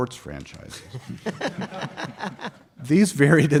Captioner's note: audience chuckles